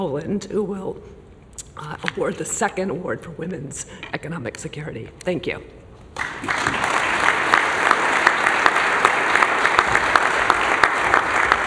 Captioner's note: applause